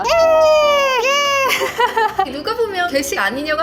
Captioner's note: scream!